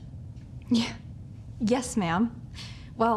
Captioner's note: laughs